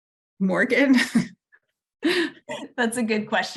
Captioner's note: chuckles